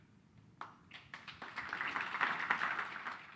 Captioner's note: applause